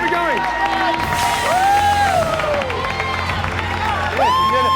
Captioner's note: cheers and applause